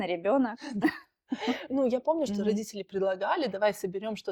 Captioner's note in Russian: смех